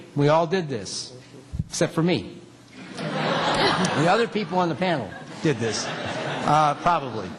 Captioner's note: laughter